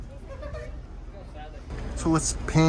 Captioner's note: woman giggling